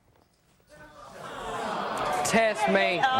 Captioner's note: audience booing